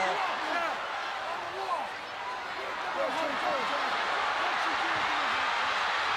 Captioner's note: Michaels and Undertaker yelling